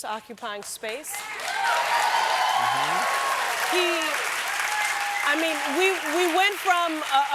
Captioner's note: applause